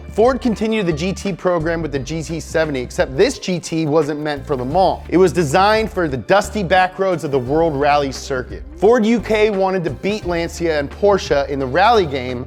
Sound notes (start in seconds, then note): none